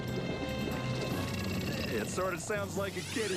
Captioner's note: purring